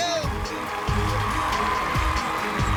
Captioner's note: cheering